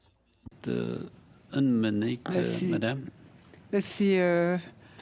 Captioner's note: speaking French